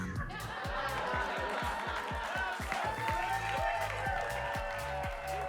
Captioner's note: audience laughing and applauding